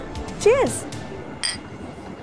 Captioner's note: glass clinks